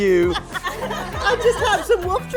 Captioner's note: group laugh